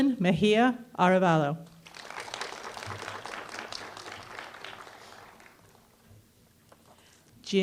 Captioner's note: applause